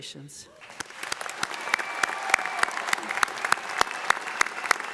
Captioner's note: audience applauding